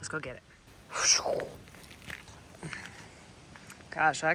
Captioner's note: imitates air whooshing